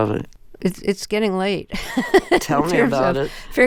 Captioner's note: laughter